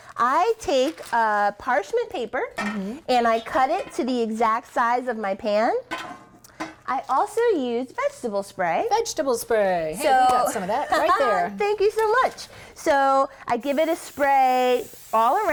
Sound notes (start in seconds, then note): 10.4 laughs